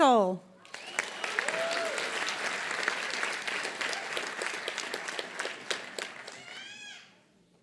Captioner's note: applause